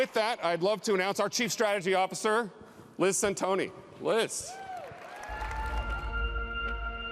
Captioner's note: applause